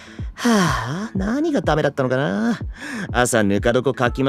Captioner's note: sigh